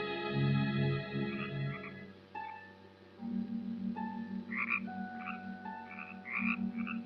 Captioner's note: frogs croaking